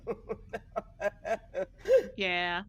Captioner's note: person laughing